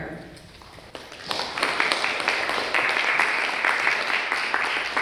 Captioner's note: audience clapping